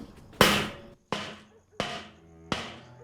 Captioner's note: bang continues